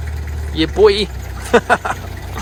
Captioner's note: laughs